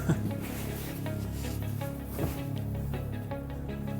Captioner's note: laughs